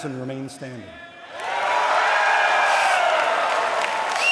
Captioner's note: applause